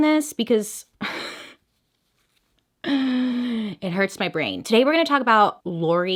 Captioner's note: chuckles